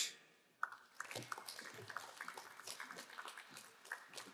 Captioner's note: crowd applauding